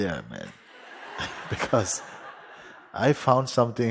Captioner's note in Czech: Smích